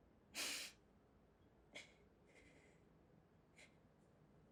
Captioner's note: sniffling and crying